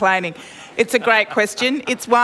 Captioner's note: laughter